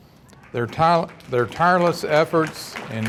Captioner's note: audience applauding